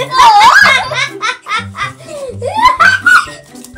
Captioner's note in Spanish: Risas